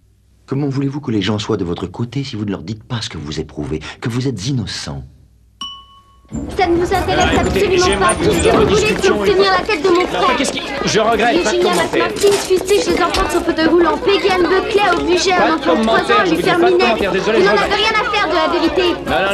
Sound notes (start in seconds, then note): 5.6 elevator dings